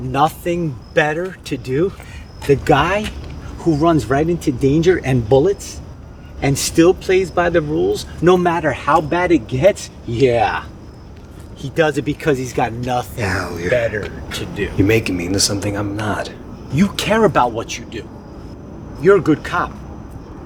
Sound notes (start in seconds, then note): 9.9 sarcastically